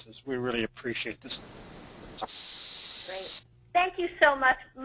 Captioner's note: static